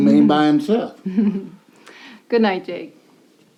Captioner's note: Natalie giggles